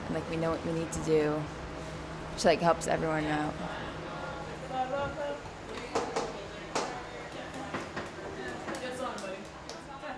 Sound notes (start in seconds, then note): 5.9 loud knocking